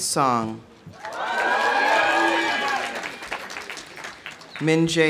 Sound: audience cheering; audience applauding

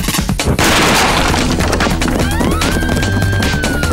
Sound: crashing

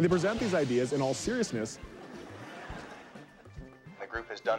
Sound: laughter

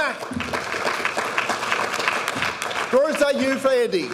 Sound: audience applauding

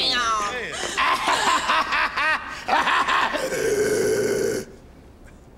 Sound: laughs, growls

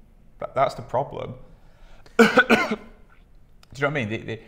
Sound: coughs

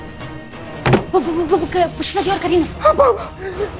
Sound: stammers; gasping and exclaiming

